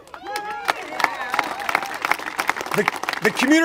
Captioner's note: congregation applaud